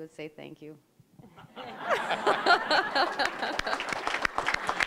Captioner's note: audience laughing; applause